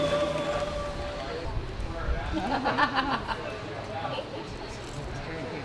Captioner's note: laughter